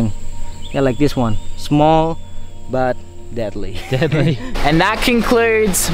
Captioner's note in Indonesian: laugh